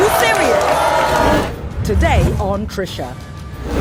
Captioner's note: audience exclaims